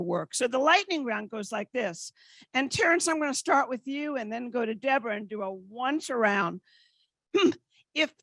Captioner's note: none